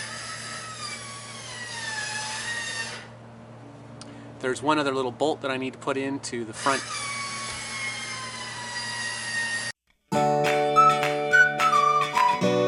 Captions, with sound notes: There's one other little bolt that I need to put into the front -- (machine whining) (upbeat music)